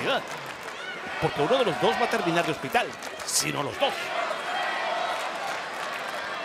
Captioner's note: commentator speaking Spanish